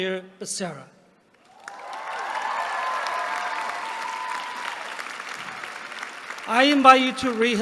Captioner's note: applause